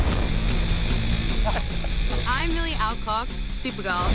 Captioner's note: laughs